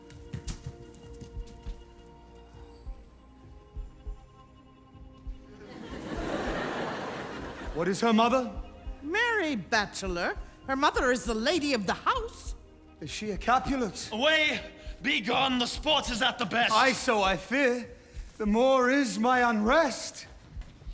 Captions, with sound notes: [audience laugh] What is her mother? Marry, bachelor, her mother is the lady of the house. - Is she a Capulet? - Away! Begone; the sport is at the best. Ay,so I fear; the more is my unrest.